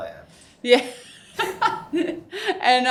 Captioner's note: laughs